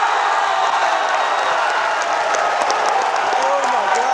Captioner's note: audience cheers and applause